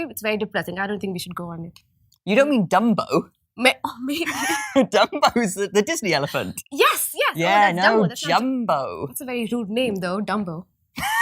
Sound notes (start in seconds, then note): 4.7 laughs